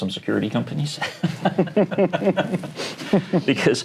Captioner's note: laughter